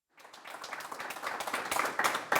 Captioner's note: applause